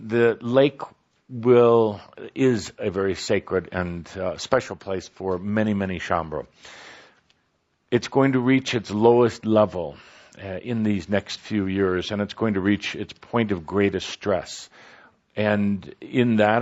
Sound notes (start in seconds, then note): none